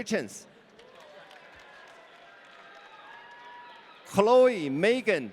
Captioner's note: audience cheering